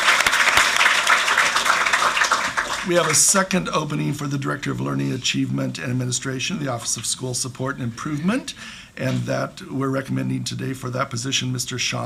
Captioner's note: clapping